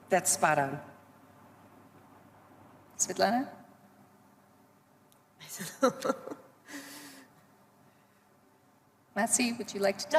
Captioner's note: laughs